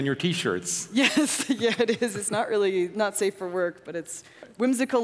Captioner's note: laughs